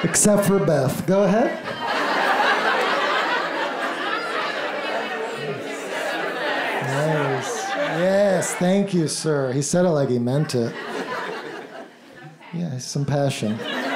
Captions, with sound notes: Except for Beth. Go ahead. - [Crowd] I forgive everyone who has ever left me. Except for Beth. - Yes. Yes, thank you sir. He said it like he meant it. Yeah. Some passion.